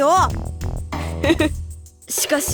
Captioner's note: chuckle